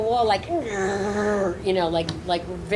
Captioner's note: imitates tires screeching